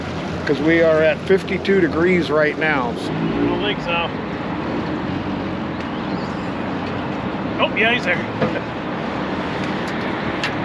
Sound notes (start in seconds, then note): 3.4 boat engine running